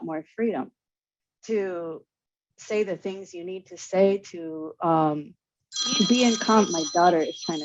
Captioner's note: phone ringing